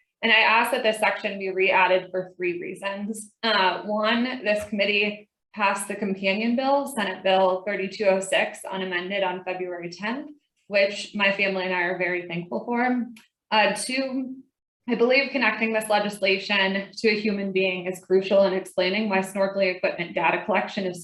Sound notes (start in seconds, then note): none